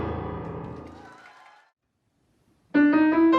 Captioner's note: audience cheering